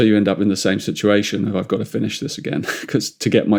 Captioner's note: chuckles